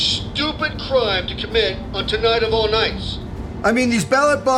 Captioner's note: radio